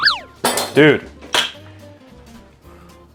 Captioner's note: celeriac thuds on floor